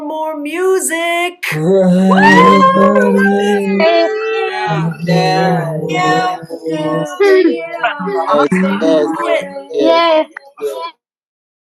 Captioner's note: cheering